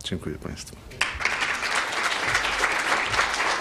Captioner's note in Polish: oklaski